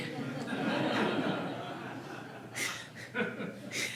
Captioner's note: audience laughing